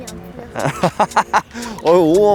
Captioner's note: bursts into laughter XD